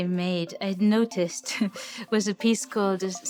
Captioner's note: chuckles